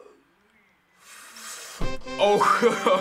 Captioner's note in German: Inhaliert scharf; Sieg Musik; Lacht